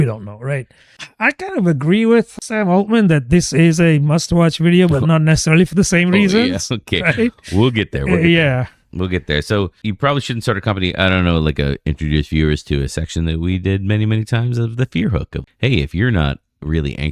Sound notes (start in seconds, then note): 11.6 uh